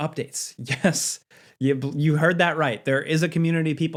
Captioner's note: chuckling